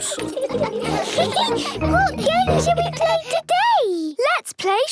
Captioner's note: giggles